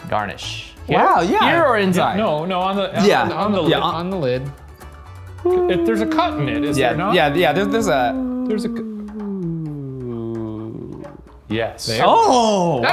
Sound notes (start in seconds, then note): 9.5 humming